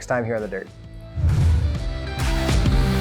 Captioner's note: rock music; graphic whooshing